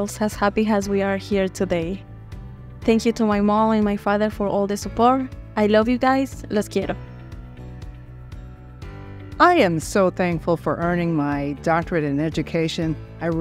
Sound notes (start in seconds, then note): 6.8 speaking Spanish